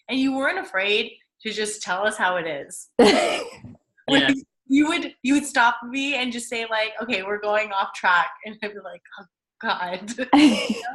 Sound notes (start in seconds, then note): 4.1 giggles